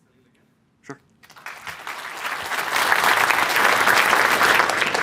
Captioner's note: applause